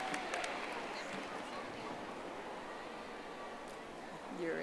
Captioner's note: audience applauding